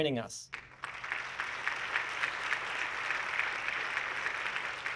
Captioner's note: audience clapping